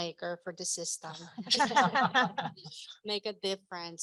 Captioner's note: laughter